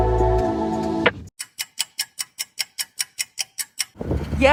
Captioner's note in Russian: тиканье часов